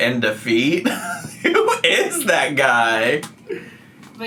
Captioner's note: laughs